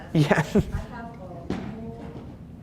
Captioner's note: laughs